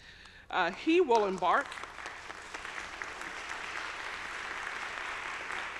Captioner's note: audience applauding